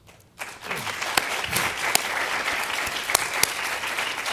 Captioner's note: applause